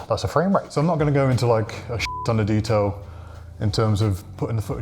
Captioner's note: beep